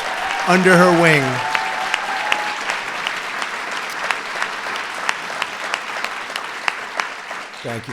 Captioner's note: applause